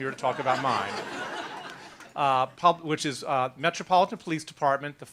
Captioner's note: laughter